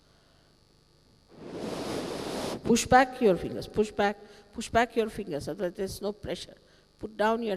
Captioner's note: shri mataji blows into the microphone